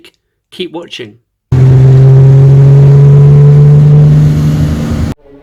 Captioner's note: car driving